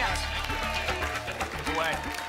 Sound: applause and cheering

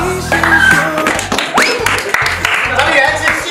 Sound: good performance audience applauded

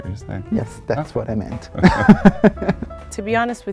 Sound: laughs

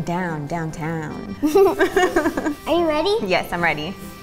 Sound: laughs

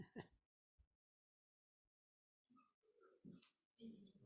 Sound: board member laughs

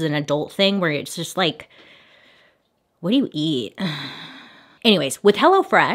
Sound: sighs

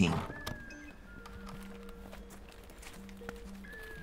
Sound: crunching

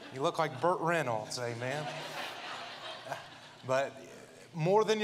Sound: audience laughs

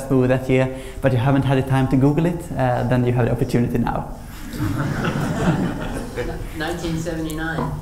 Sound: laughter

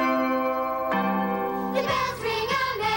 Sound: bells

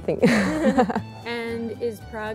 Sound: all laugh

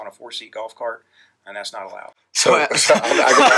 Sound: laughs

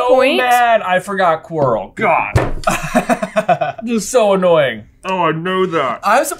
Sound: slam

